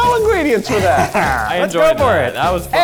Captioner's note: laughs